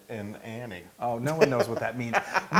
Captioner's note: laugh